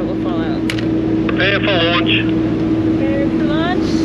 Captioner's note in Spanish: Man Over Radio